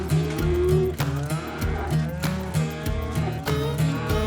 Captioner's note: mooing